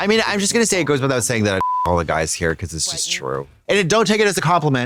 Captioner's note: beep